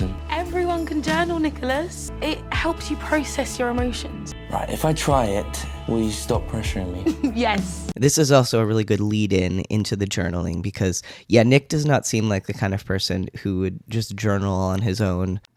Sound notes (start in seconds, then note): 7.0 laughs